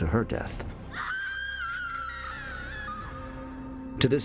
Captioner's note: scream